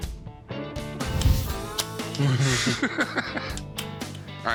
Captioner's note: laughter